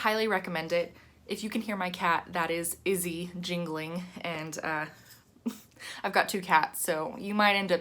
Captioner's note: chuckle